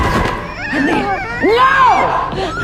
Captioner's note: shouting